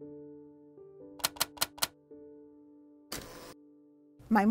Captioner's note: typing